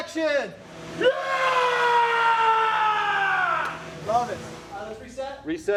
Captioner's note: screaming